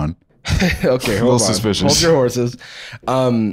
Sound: laughs

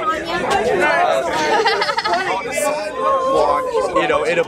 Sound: crowd reveling

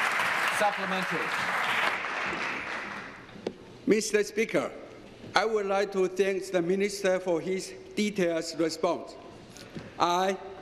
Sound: some Applause

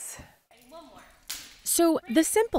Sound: item clatters

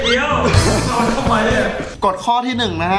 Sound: laughs

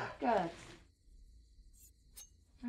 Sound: knife scraping

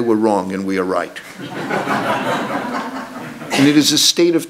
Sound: audience laughs

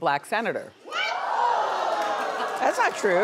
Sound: audience gasps

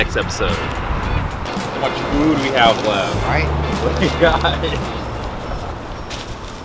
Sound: laughs

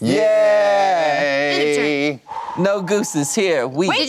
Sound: cheering

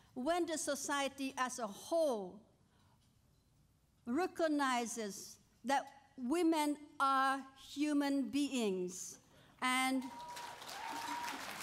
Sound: applause

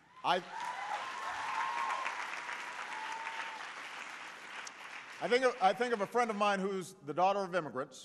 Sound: applause

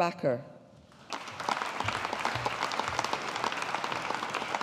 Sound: audience applauding

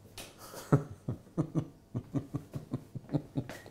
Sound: laughs

